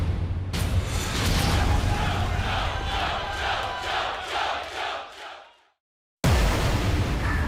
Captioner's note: fans chanting